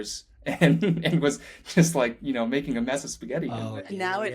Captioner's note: laughing